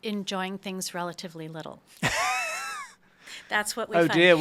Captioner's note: laughs